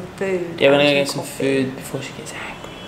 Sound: whispering

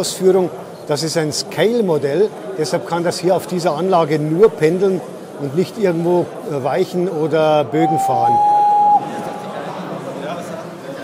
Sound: whistle

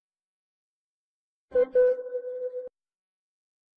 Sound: beeps

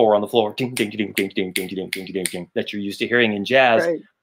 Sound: mimics drum tapping

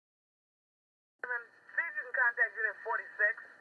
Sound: ambulance radio dispatch chatter

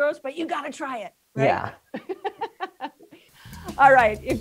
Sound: laughs

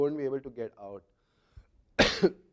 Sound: cough

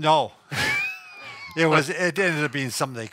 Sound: laughs

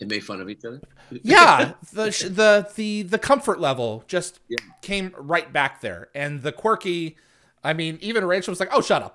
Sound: clicks fingers

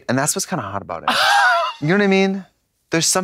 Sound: Katya rasps

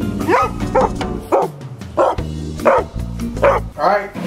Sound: dog barking

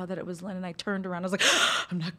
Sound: gasp

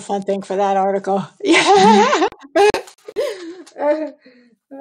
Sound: laughs

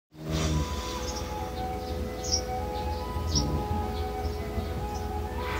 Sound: snoring sound

